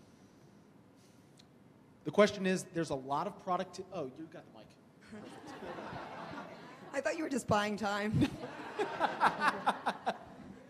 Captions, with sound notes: - The question is, there's a lot of producti- oh, you've go the mike. (audience laughs) - I thought you were just buying time. - (laughs)